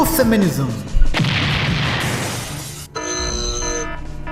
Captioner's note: explosion